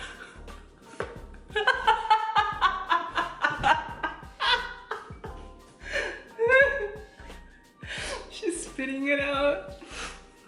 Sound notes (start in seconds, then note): 1.5 evil laugh; 4.7 evil laughter continues